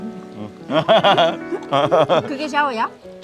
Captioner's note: both laughing